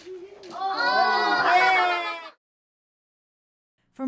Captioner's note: cheering